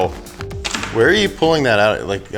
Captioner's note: plastic packet thuds